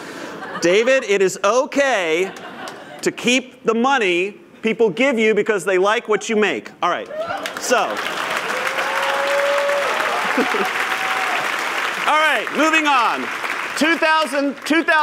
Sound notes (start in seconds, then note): 7.0 applause